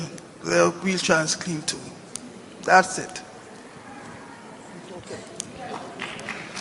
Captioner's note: applause